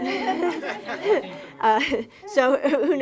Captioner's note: laughing